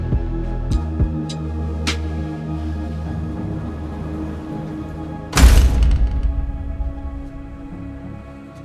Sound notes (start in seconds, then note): 5.3 elevator doors clank